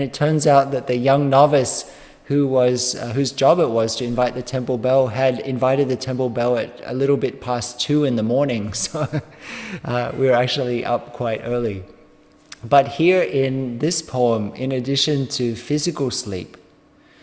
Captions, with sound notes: And it turns out that the young novice, whose job it was to invite the temple bell had invited the temple bell a little bit past 2 in the morning. So ..... [laughing] We're actually up quite early. But here in this poem, in addition to physical sleep,